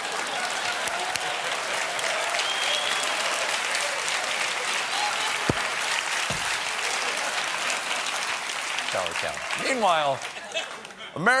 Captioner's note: cheers and applause